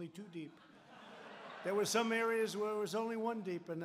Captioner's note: laughter